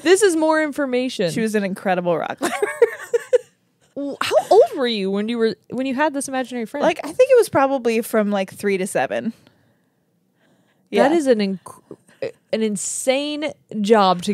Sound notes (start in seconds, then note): 2.4 laughs